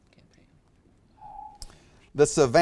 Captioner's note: alarm echoes